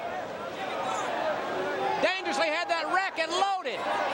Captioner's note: crowd chatter